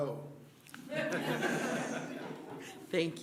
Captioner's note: laughter